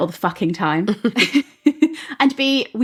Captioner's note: laughing